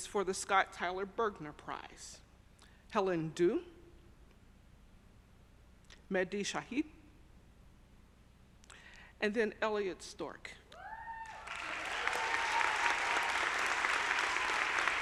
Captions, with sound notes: for the Scott Tyler Bergner Prize, Helen Du, Mehdi Shahid and then Elliot Stork. (audience cheering) (audience applauding)